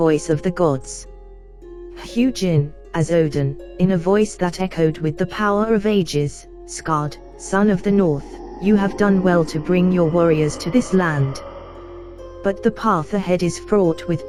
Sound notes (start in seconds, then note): 3.3 in a voice that echoed with the power of ages